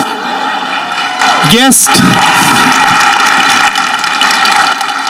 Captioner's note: audience clapping